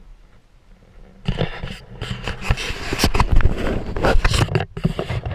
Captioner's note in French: GRINCEMENT DE PENTURE DE GoPro